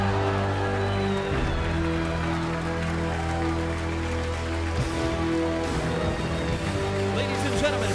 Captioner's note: crowd cheering